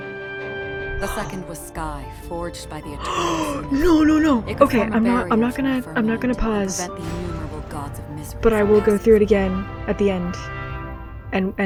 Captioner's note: gasp